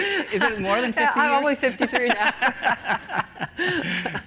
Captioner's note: laughter